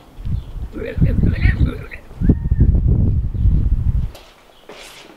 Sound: weird alien noises

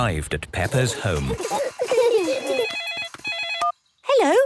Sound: giggling; phone ringing

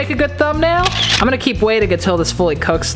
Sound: camera snap

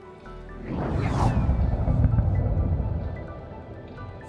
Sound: graphic whooshing

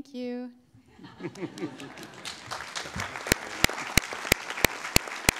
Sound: audience laughing and clapping

